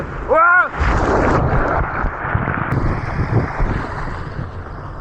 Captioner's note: wind blowing